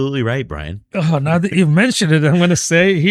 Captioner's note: uh